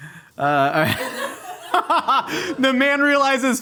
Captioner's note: laughing